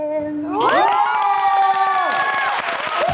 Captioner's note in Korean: 기립박수